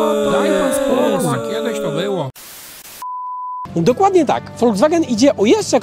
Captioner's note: unhappy crowd shouting